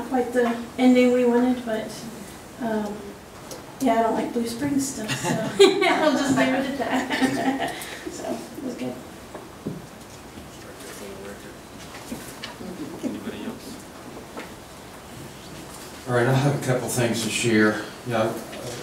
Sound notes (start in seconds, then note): 5.0 laughing